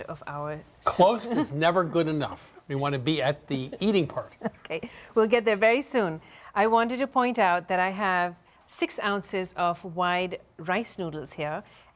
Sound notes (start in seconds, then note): 4.4 laughing